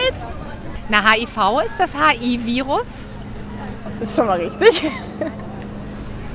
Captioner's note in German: lacht